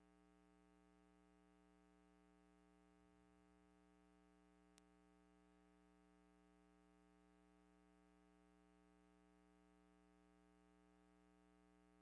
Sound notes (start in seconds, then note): none